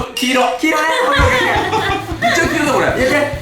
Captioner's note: laughing